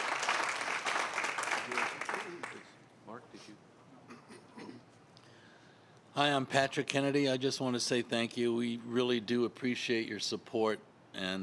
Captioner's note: applause